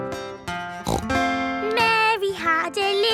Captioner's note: playing guitar; snorts